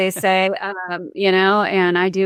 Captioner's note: chuckles